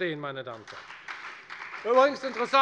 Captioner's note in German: Beifall bei der FDP